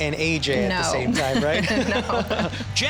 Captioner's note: laughing